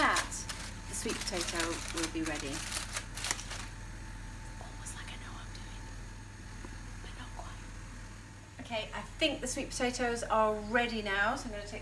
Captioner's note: whispers